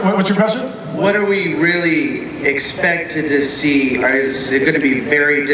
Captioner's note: voiceover